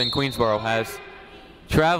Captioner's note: whistle